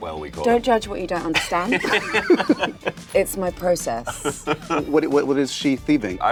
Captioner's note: laughter